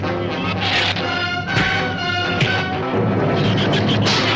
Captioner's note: dramatic orchestral music; fist thuds; shrews chatter